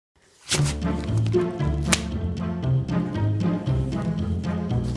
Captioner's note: gloves snapping